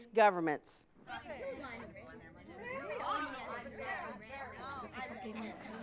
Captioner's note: students chattering